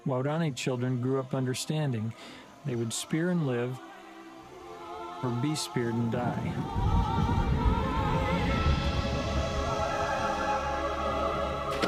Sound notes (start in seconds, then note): 6.7 thunder claps; 7.7 slow orchestral music; 11.6 water splashing